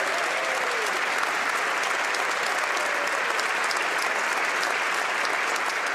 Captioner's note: applause